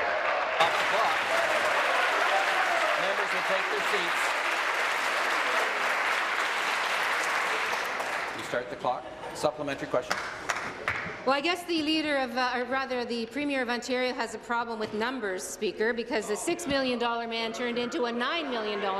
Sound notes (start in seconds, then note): 3.0 applause